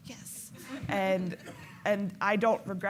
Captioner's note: laughing